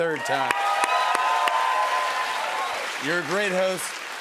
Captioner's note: cheers and applause